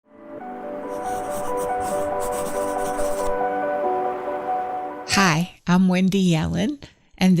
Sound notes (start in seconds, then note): 0.0 soft music; 0.8 pencil scribbling